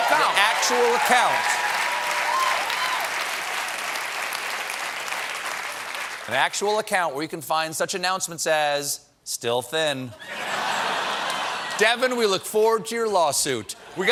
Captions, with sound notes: THIS IS A REAL ACCOUNT, AN ACTUAL ACCOUNT. ( CHEERS AND APPLAUSE ) AN ACTUAL CONTACT. WHERE YOU CAN FIND SUCH ANNOUNCEMENTS AS STILL THIN. DEVIN, WE LOOK FORWARD TO YOUR LAWSUIT.